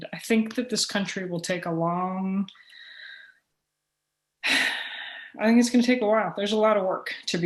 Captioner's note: sigh